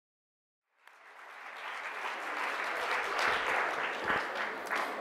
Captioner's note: audience clapping